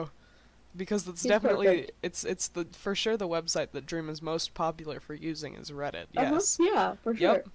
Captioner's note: agreement noises